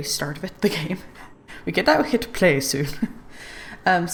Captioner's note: laughs